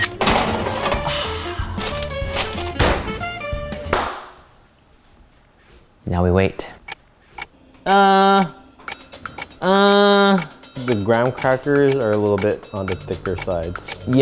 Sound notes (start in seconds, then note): 0.1 photo snap; 0.9 sighs; 3.8 clap; 7.0 clock ticking